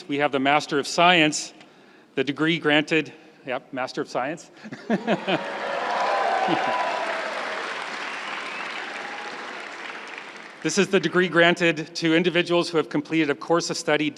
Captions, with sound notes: we have the master of science, the degree granted, yep, master of science. (laughs) (crowd cheering and applauding) This is the degree granted to individuals who have completed a course of study